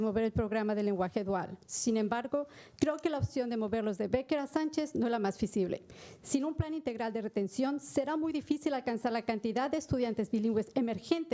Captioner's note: speaking spanish